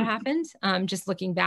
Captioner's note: chuckles